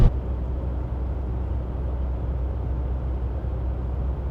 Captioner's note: air blowing